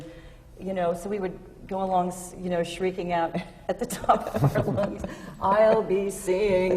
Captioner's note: laughs